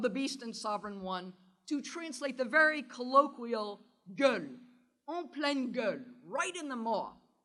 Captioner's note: french